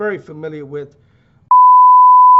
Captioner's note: beep